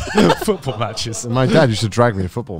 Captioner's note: giggles